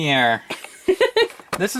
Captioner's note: laughs